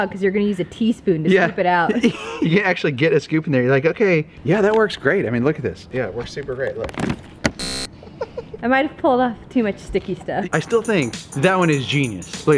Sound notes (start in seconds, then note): 7.5 buzzing; 7.9 laughing